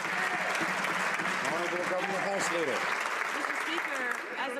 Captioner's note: some Applause